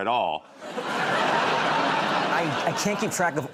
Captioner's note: laughter